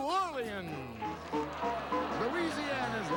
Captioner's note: audience applauding